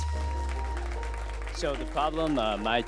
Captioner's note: crowd applauds